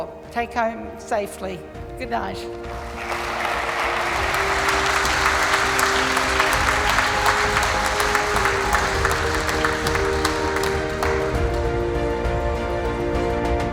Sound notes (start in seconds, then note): 2.4 mellow music; 3.4 audience clapping